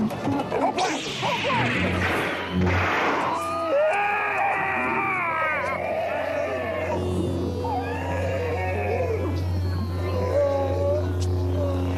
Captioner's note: light sabre noises, screams